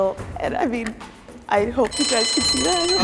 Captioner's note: alarm ringing